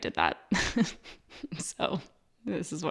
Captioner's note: laughs